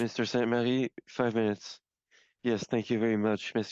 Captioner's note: speaking in French